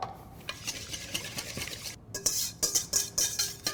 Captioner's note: whisking sounds